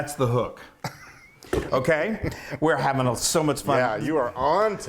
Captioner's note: laugh